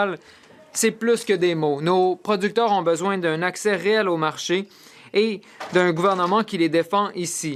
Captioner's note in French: voix de l'interprète